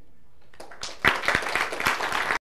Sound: applause

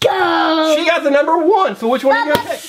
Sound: voiceover

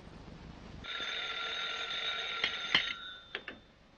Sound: phone rings

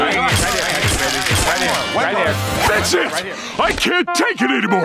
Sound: chattering

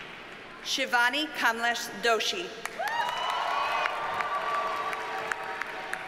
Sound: audience cheers and applauds

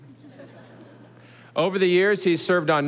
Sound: audience laughing

